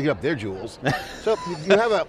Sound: group laughing

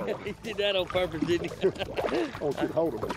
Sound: laughs

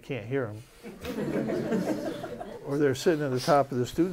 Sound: laughter

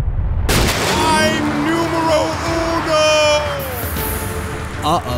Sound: explosion

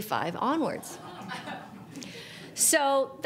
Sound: audience laughs

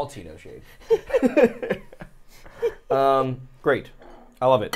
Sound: laugh

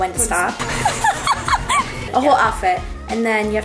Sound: laughs

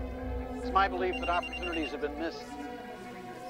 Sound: ringtone

